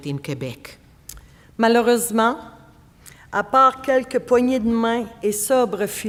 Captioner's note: speaking French